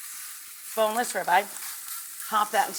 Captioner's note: steak sizzles